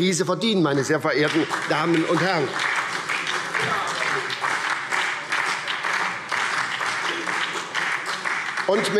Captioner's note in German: Beifall SPD und vereinzelt BÜNDNIS 90/DIE GRÜNEN